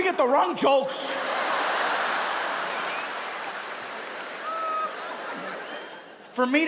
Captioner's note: audience laughs; audience applauding